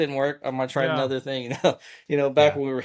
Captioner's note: chuckles